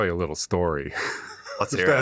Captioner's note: chuckles